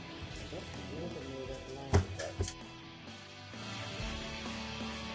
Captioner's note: gavel sounding